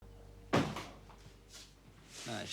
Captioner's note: door closing